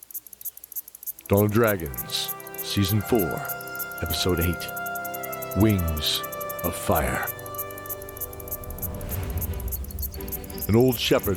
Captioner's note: sounds of a farm